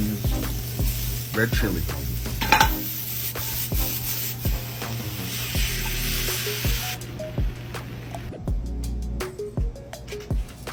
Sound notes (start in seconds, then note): 1.9 sizzling sound; 1.9 upbeat music